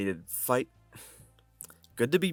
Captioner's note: sigh